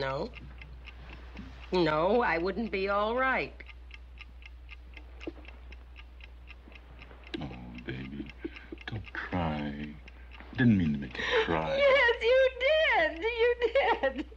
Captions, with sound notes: - No, no, I wouldn't be all right! (clock ticking) - Oh, baby, don't cry. I didn't mean to make you cry. - Yes, you did, you did.